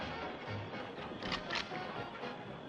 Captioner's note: rifle cocks